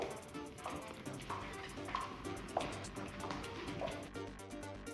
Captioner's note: feet clopping